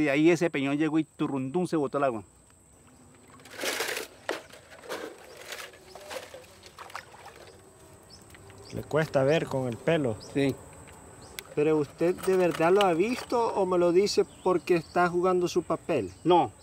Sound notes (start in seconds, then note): 6.0 water splashing; 8.6 speaking in foreign language